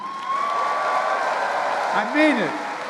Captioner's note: applause